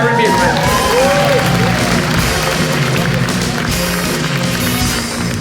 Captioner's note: audience applauds; upbeat music